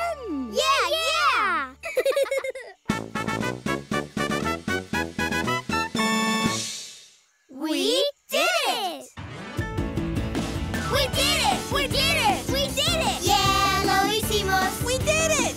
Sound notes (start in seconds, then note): 1.8 laughing; 2.9 trumpet playing; 9.4 upbeat music playing